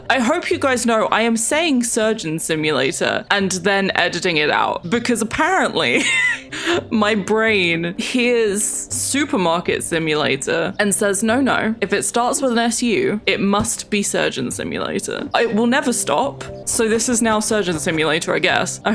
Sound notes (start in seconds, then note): 5.6 laughs